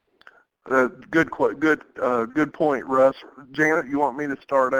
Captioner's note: voiceover